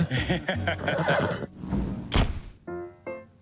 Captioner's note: laughs